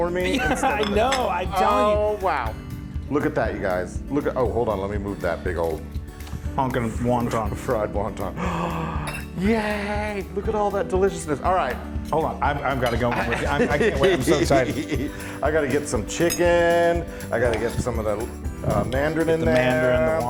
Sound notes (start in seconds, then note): 0.1 laughing; 8.3 gasping; 13.1 laughing